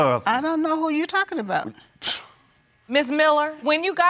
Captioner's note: scoffs